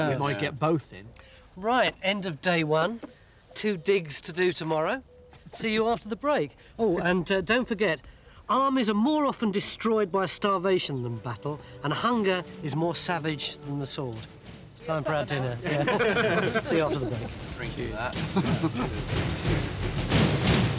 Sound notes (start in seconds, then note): 15.6 all chuckling; 17.8 exciting music